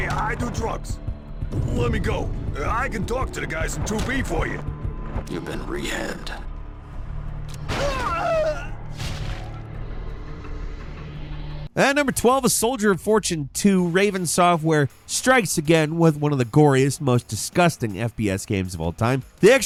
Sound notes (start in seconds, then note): 7.7 character screams; 7.8 ominous music